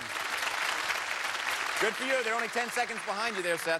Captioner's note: cheers and applause